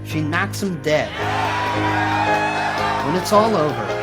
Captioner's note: audience cheers